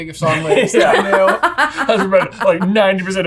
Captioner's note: all laughing